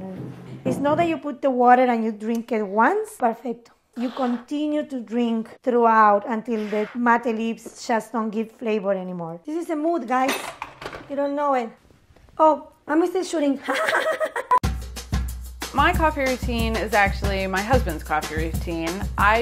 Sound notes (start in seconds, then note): 13.7 laughs; 14.6 upbeat instrumental music